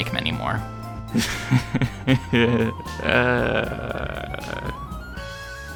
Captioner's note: nervous laugh